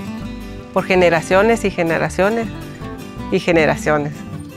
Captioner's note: speaking spanish